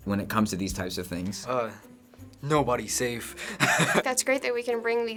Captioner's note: laughs